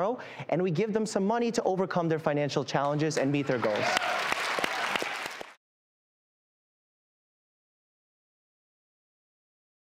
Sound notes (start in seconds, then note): 3.2 applause